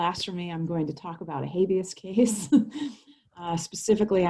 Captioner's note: chuckles